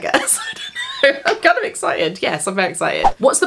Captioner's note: laughs